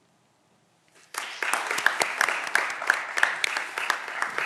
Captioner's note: audience applause